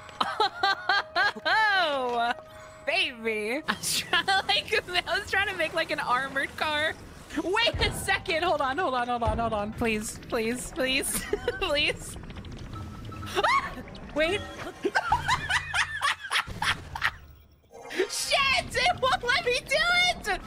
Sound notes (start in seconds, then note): 3.6 laughter; 11.1 laughter; 14.6 excited Laughter